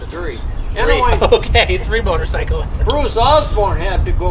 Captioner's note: laughs